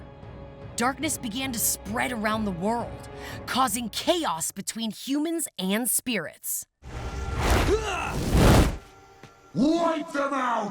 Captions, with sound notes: Darkness began to spread around the world, causing chaos between humans and spirits. [grunting] Wipe them out!